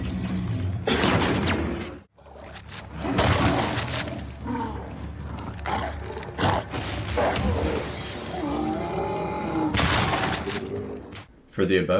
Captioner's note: grunts